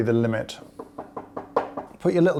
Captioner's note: tapping